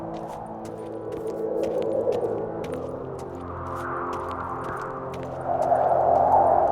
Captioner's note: wind whistling